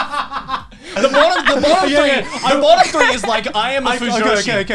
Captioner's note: both laughing; both mumbling